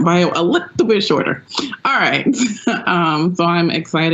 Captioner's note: laughs